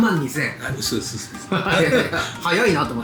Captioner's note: laughs